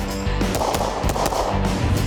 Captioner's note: shots firing; whooshing